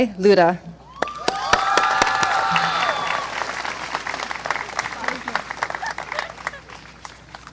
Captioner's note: clapping and cheering